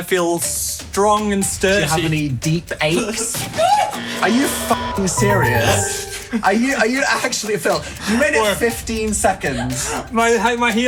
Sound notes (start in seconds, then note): 5.1 beep